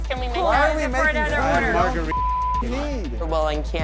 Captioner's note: beeping